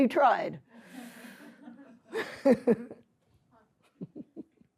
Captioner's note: laughter